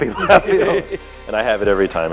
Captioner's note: both laughing